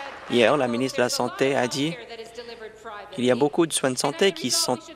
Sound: applause

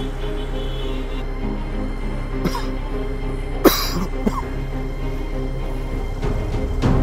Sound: dramatic music; coughs

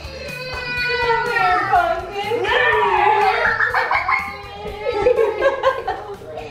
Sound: laughing; crying

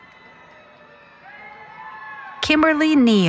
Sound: cheering

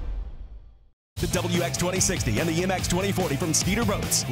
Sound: voiceover

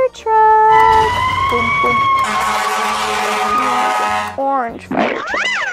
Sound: fire truck sirens

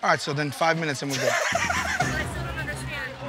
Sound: laughter

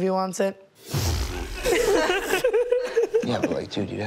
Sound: laughs

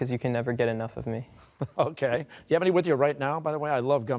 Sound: laughing

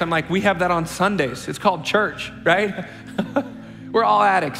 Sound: chuckles

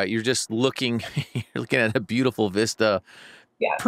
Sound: laughing

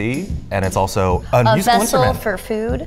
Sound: both laughing

